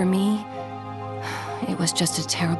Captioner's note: sigh